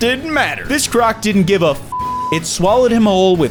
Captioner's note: beep